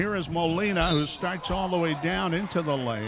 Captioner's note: referee whistling